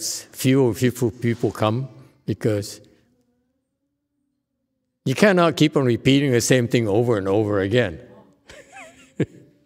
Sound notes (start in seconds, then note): 8.4 laughs